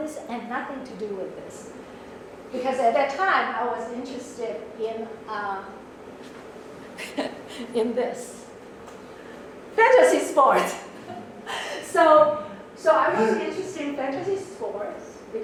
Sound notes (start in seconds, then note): 9.9 laughs